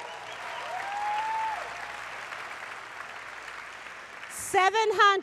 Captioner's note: applause